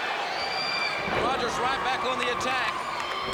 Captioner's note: crowd cheering